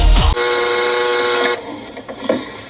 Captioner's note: alarm buzzing